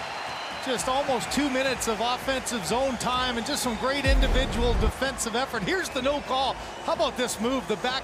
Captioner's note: cheering and Applause